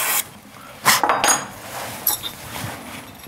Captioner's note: he blows